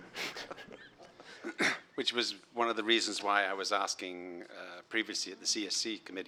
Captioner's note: laughter